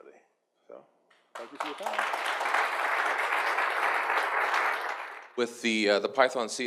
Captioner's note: audience claps